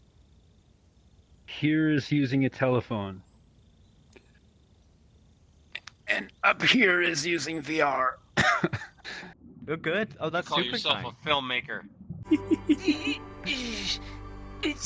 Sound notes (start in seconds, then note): 13.3 groaning noises